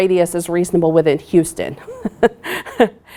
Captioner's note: laughs